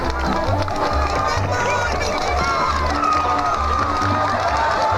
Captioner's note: bull hooves clopping